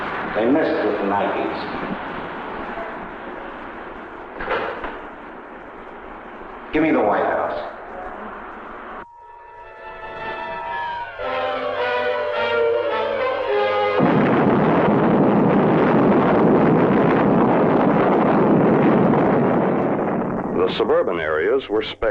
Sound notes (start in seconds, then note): 4.1 receiver clacking; 8.9 missile beeping; 10.9 intense orchestral music; 13.2 missile exploding